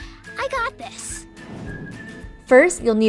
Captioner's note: warm upbeat music; transition whooshes